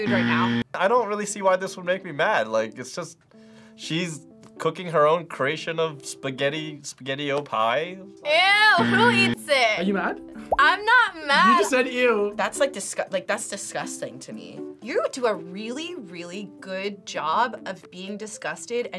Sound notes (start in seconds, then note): 0.0 buzzer rings; 8.7 buzzer rings